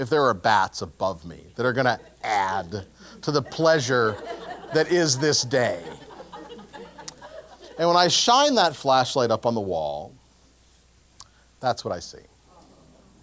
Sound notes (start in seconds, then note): 5.8 laugh